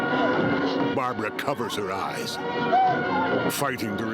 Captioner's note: music surging; whimpering